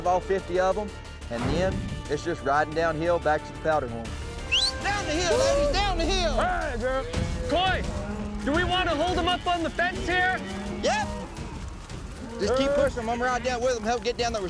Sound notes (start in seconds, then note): 4.4 whistles